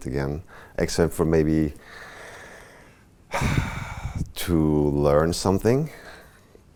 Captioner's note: sighs